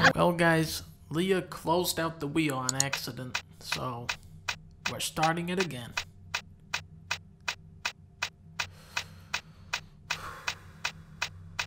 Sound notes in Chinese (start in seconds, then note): 10.2 嘆氣